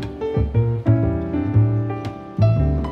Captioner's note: none